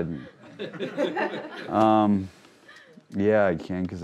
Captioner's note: crowd laughing